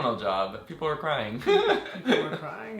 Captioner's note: laughs